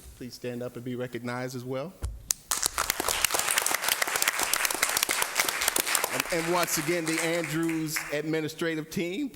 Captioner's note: applause